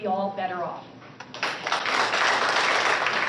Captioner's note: applause